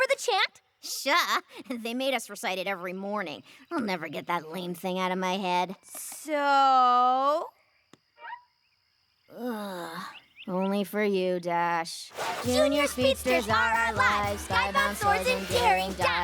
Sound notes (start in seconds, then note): 9.3 groans; 12.2 chanting